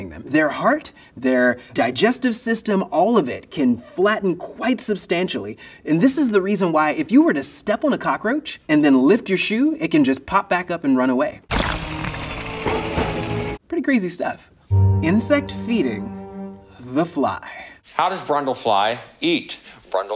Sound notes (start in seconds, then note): 11.5 roach squishes